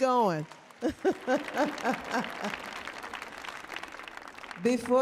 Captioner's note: audience applauding; laughing